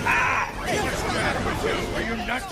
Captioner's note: clamouring